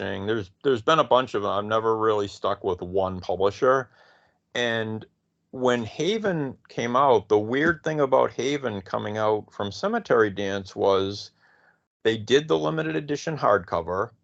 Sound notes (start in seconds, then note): none